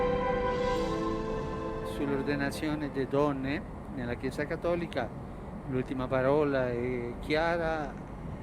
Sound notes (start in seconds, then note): 1.8 in Italian